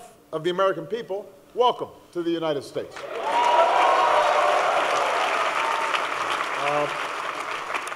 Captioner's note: applause